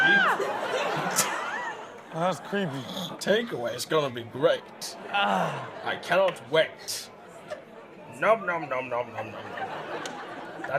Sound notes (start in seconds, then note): 2.2 man gaps; 5.0 Steelo groans; 9.1 audience laughs